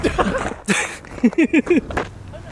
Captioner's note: laughing